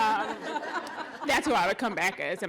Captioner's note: laughter